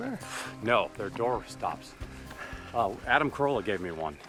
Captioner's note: exhales sharply